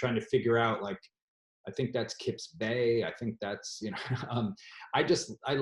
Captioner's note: laughs